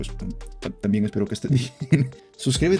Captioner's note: laughter